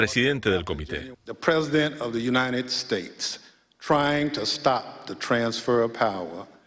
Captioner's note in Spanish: habla en ingés